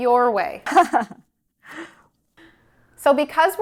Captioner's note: chuckles